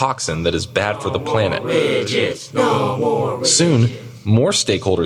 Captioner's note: protesters chanting: No more widgets. No more widgets